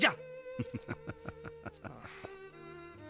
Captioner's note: laughing